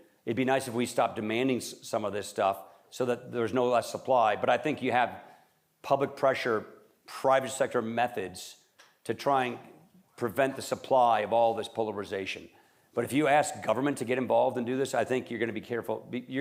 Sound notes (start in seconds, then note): none